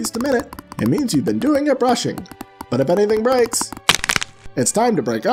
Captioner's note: horrendous crunch